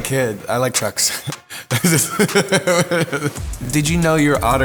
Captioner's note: laughs